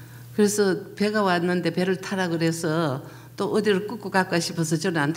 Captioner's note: speaking foreign language